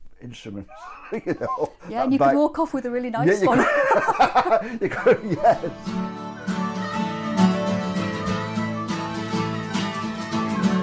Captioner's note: laughs